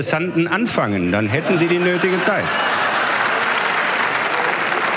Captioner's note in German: Gelächter und Applaus